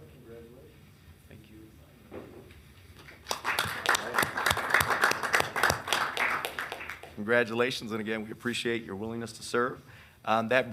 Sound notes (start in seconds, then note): 3.0 attendees and members clapping